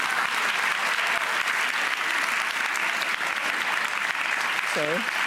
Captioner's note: audience applauds